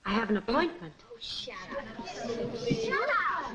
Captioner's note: people chattering